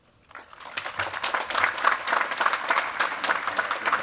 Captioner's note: applause